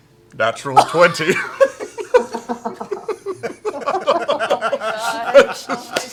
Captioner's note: laughter